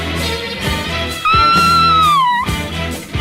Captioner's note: Sweet Polly Purebred Screams